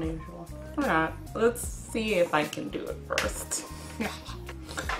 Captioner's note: inhales through the nose; laughs